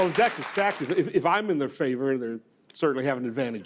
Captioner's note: audience laughing